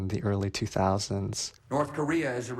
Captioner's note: soundbite of archived recording